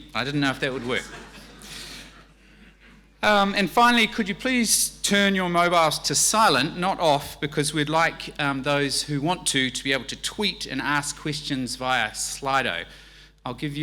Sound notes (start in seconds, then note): 0.4 audience tittering